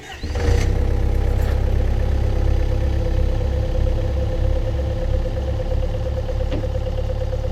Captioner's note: machine idling